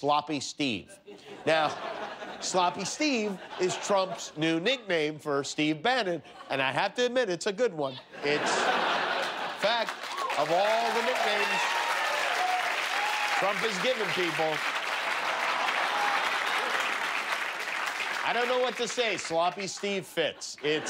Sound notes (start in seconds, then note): 3.8 laughter; 7.9 laughter; 9.7 cheers and applause